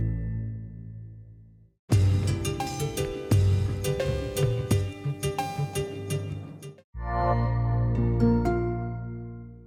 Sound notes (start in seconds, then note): 1.9 laid back music; 7.0 gentle tone ringing